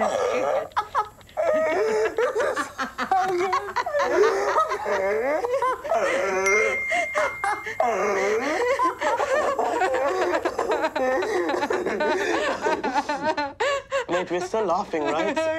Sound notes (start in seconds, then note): 0.4 continues laughing; 10.5 crying